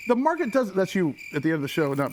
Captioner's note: crickets chirping